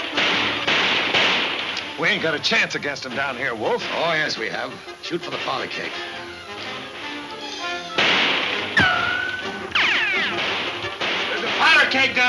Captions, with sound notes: - We ain't got a chance against 'em down here, Wolf. - Oh yes, we have. Shot for the powder keg. (guns firing) - There's a powder keg down there.